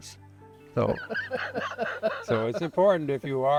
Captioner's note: chuckles